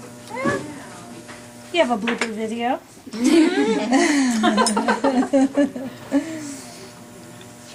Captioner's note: laughter